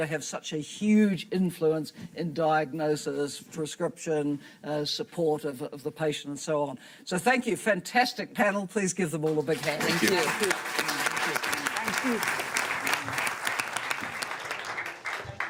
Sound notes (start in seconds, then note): 9.5 audience applauding